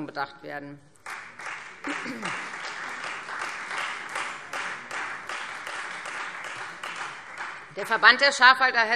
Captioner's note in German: Beifall Freie Demokraten